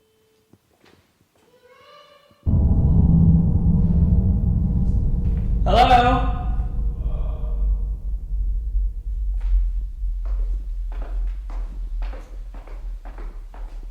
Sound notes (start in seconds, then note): 1.5 child's voice calls out; 10.4 footsteps descending